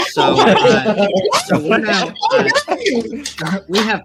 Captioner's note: laughing, cheering